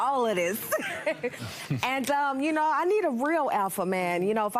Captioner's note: laughs